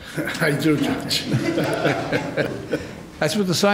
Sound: courtroom softly laughing; softly chuckling

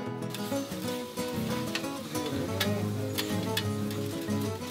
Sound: sizzling

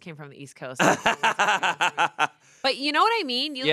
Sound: laughs

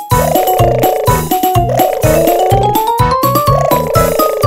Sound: baby gurgling

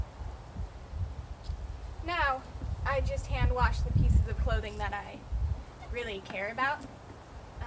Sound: wind

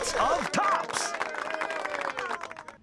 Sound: applause

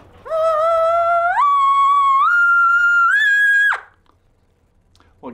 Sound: makes elk call sound

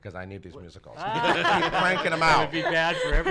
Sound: laughs

